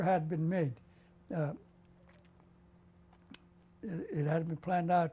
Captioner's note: pauses for 3 seconds